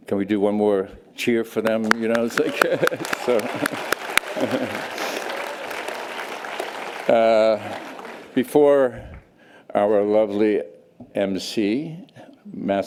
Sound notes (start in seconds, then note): 1.7 audience applause